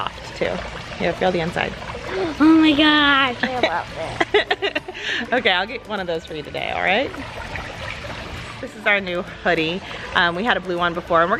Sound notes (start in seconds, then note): 4.0 laughs